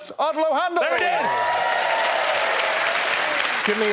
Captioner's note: cheers and applause